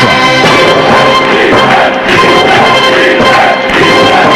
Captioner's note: crowd chanting "defense